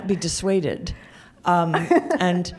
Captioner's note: laughs